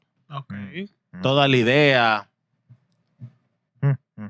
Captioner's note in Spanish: Hablando en idioma extranjero